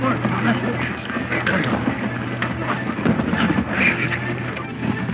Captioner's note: mumbled grunts